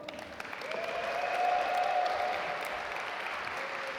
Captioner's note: audience applaud